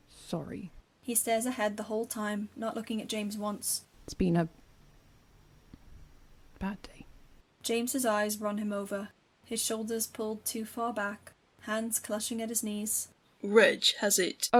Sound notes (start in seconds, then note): none